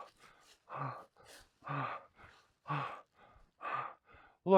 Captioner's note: Ron panting